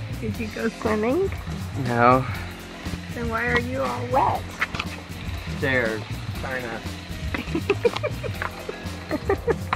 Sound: laughter

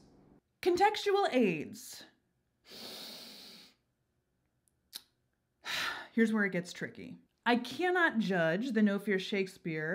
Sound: deep inhale

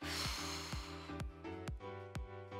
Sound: exhales

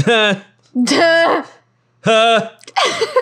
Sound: laughing; fake laughing; laughing

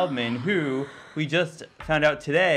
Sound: gasping

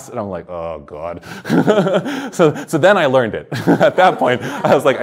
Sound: chuckles

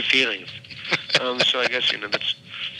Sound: chuckling

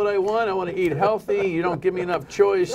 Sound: laughter

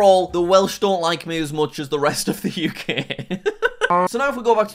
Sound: laughs

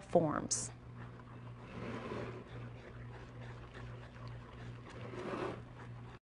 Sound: spoon scraping against bowl

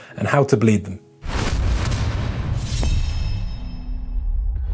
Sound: explosive blast

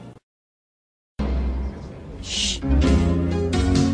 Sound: audience murmuring quietly

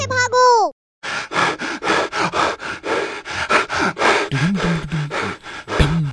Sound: exhaled

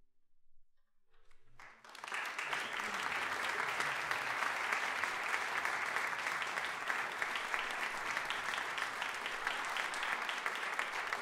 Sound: applause

